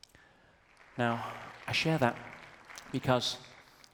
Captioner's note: audience applauds